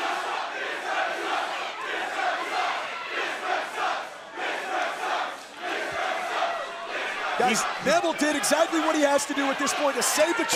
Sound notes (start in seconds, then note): 2.0 crowd cheering